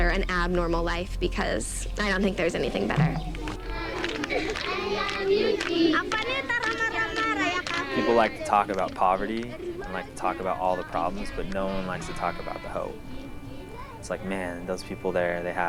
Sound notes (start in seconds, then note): 3.9 speaking in foreign language